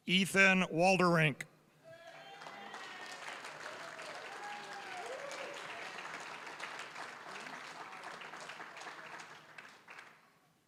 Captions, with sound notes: Ethan Wolterink. (applause, cheering) (applause)